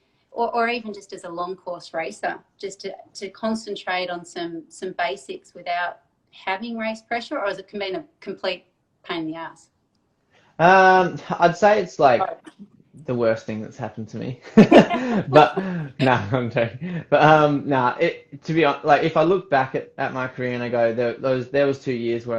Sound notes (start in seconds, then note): 16.4 laughs